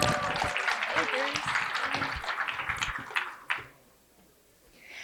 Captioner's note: applause